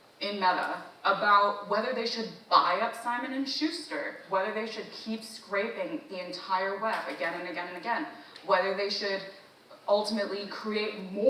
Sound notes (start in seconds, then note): none